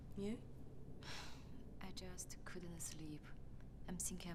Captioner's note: sighs